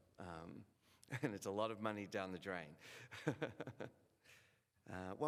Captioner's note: laughs